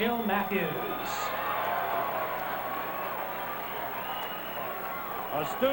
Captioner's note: loud cheering and applause from the audience